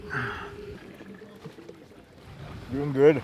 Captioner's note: water pouring